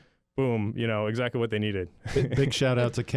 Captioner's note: chuckles